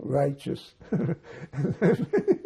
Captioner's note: laughing